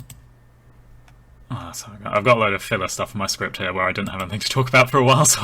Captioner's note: mouse clicking